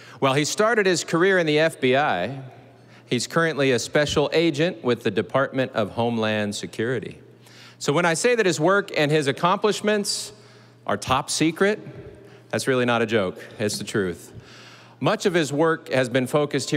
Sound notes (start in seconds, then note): none